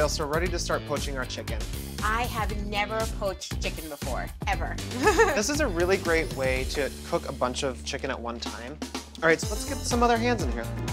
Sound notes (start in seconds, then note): 4.9 giggles